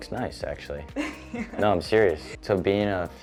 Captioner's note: laughs